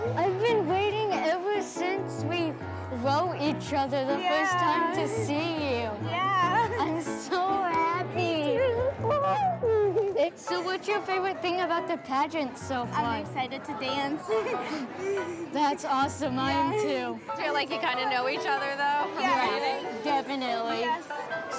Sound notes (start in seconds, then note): 8.5 both exclaim; 14.0 giggles